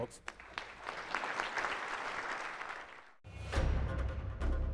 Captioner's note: audience clapping; dramatic music